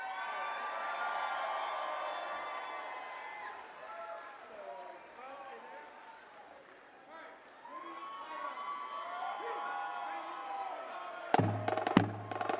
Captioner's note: applause